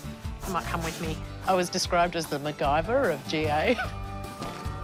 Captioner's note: laughs